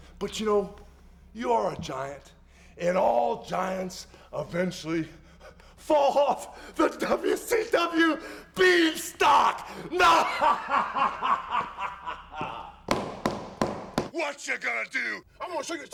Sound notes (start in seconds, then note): 10.2 laughs